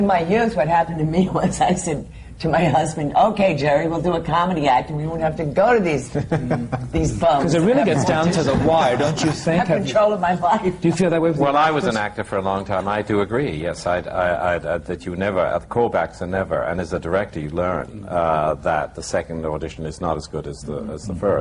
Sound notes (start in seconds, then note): 6.1 laughter; 10.4 laughs